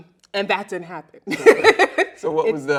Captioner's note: laughs loudly